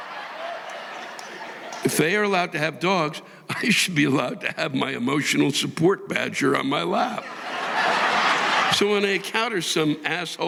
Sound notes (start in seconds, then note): 0.0 audience applauding; 3.0 audience laughing